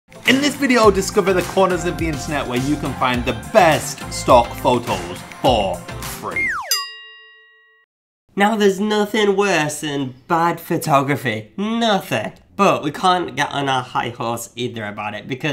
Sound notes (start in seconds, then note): 6.3 slide whistle whistling; 6.6 bell clanging